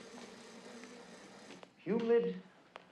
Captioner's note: machinery buzzing